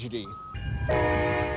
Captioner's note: nats of moving cars